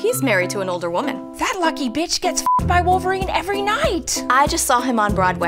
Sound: beep

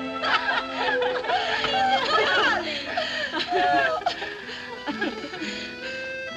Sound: giggling, Laughter

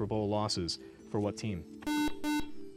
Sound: buzzer

